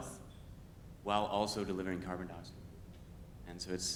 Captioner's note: speaks faintly